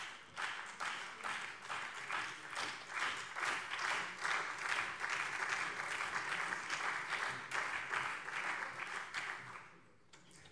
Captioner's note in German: Beifall Freie Demokraten, CDU, SPD und BÜNDNIS 90/DIE GRÜNEN